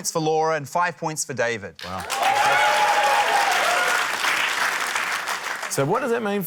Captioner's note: cheering, applause